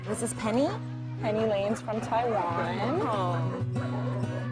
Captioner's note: barking